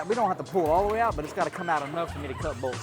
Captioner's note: laughing